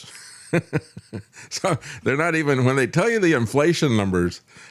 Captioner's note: laughs